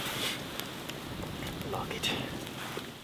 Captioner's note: British accent